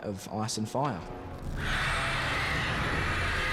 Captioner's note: screeches